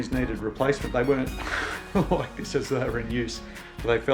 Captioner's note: laughs